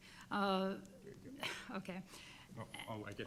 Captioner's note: laughs